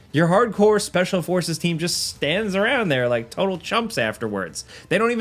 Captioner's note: none